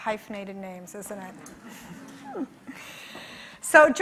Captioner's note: chuckling